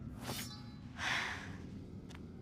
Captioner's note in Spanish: suspira